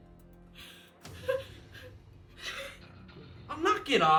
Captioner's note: Emily crying